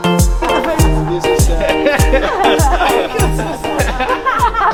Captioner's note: laughing